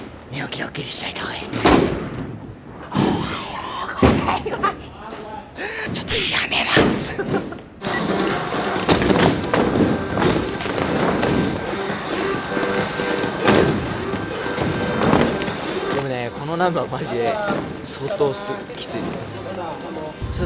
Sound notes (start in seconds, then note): 0.7 loud whisper